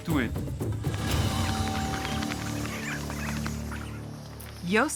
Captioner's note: bats squeaking